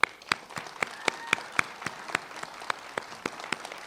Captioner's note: applause